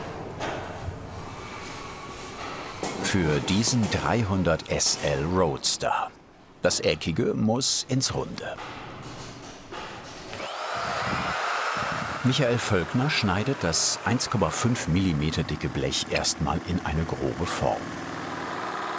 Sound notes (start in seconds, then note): 10.0 machine whirring